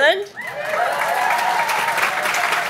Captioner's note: clapping, cheers